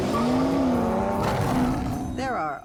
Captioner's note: roars